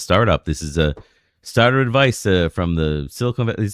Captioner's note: uh